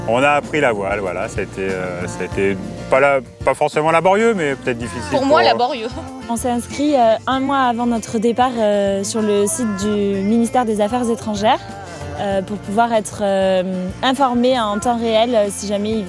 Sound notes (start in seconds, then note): 5.0 she laughs